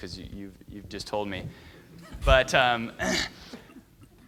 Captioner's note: laughing